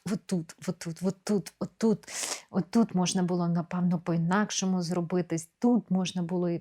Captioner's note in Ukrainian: сопіння